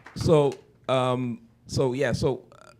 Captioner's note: applause